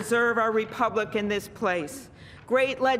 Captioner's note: applause